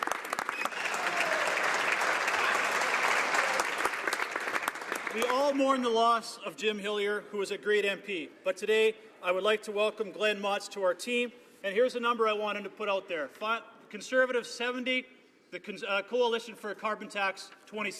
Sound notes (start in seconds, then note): 3.0 some Applause